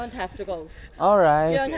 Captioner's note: laughs